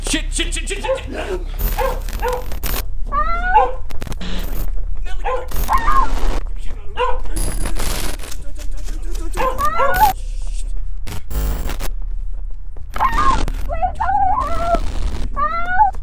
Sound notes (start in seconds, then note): 1.6 dog barking; 1.9 static hissing